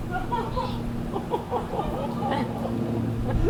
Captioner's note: Lysander cries